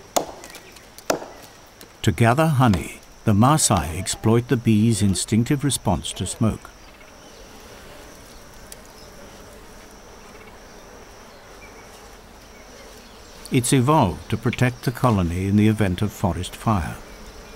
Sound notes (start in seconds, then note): 6.6 crackling, bees buzzing; 17.0 crackling, bees buzzing